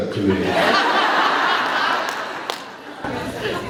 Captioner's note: laughs